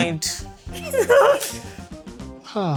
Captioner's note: laughter